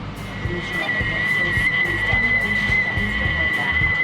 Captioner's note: kettle whistling